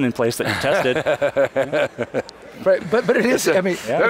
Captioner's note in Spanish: Risas